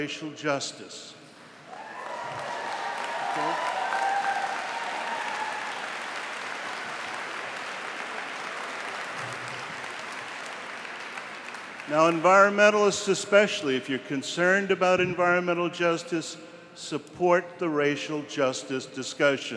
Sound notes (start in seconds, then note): 5.8 applause